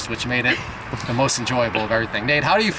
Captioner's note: laughs